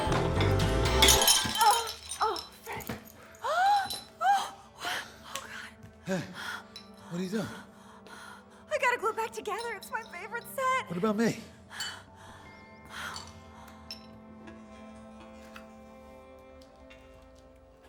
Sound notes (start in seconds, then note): 0.0 crash; 3.2 gasps